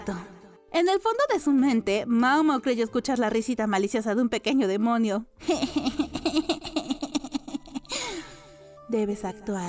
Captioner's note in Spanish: risas